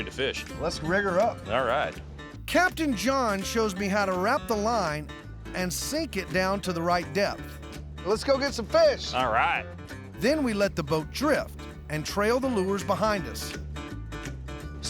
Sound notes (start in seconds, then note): none